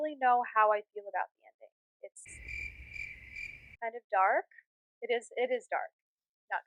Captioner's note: crickets